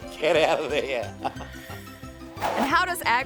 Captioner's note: laughs